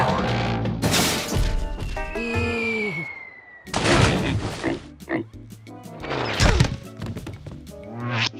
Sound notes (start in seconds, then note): 0.8 crash; 2.4 air whistling; 4.6 oink oink